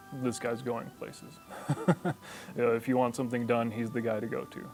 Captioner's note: laughs